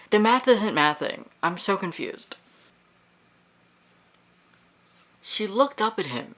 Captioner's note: silence